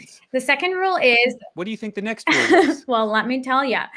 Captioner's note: laughs